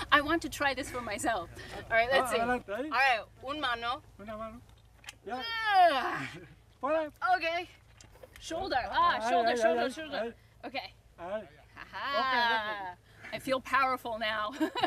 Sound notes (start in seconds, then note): 3.7 speaks in Spanish; 10.1 speaks in Spanish